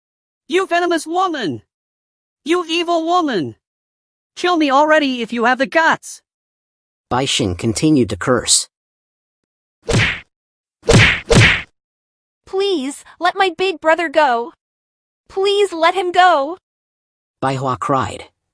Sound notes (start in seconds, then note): 9.9 sound effect